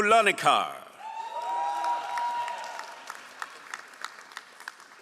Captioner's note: all applauding